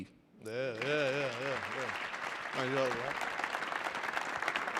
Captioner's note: audience applauding